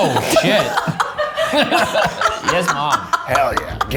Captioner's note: everyone laughs